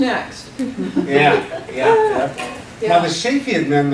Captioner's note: laughing